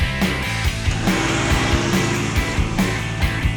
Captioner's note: motorcycle revving over music